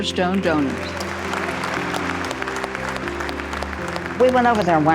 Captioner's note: audience applauding; gentle music